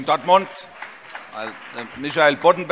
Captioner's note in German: Beifall